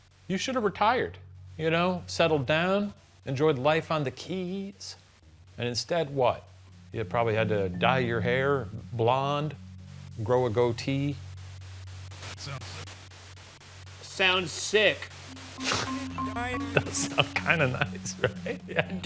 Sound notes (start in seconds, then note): 11.5 white noise; 16.5 laughs